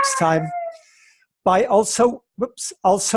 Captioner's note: dog crying